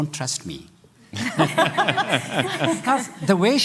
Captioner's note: laughter